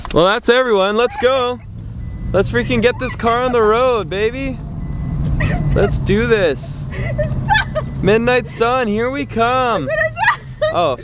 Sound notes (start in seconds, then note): 6.6 high pitched laughing; 9.7 high picked laughing